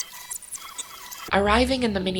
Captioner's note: high-pitched rewinding noise